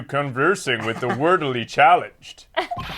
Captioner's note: laughs